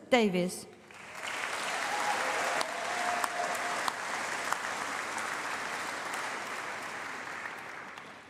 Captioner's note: applause